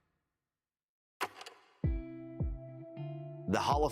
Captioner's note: film reel clicks; soft music